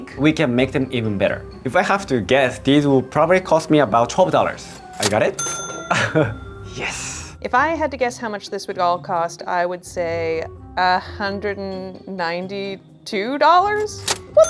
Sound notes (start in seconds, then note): 4.5 cash register bell dinging